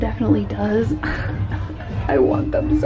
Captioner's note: sobs quietly